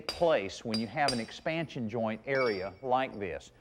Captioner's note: mason hammering; mason hammering